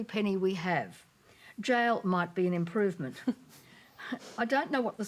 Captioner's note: chuckling